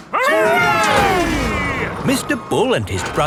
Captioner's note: all cheering